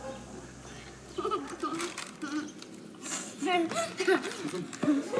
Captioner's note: child laughing